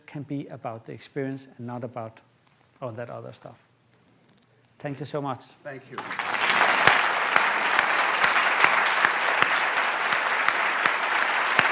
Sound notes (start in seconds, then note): 5.9 applause